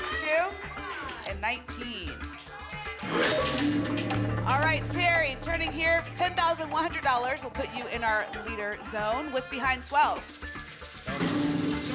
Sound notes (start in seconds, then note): 2.9 lock sound